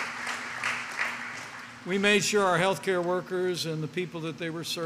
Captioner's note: applause